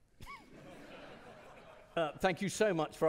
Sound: audience laughing

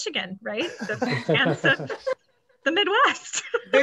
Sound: laughs

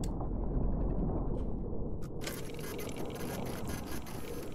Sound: machine whirring

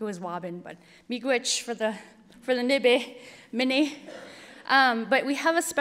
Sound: speaking Ojibwe

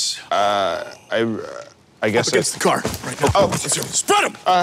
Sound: none

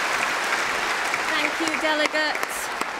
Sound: cheering & Applause

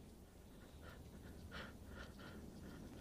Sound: panting

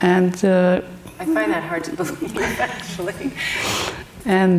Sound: laughing

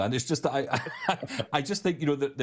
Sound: chuckling

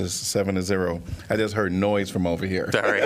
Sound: laughter

